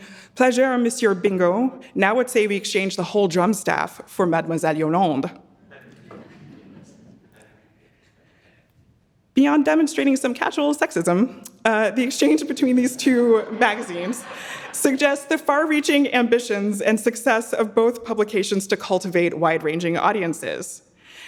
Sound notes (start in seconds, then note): 5.7 audience laughing; 12.9 audience laughing; 13.0 laughing